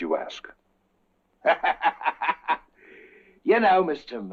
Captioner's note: laughter